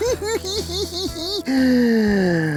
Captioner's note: giggles; gasps